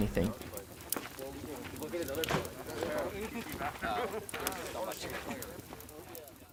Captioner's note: wood burning and crackling